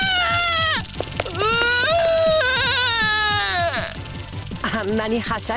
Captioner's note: wail